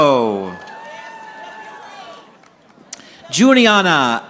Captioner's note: audience applauding